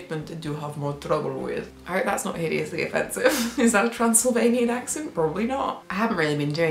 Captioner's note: laughs